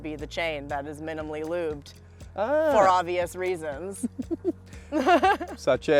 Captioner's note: laughs